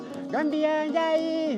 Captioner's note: chatter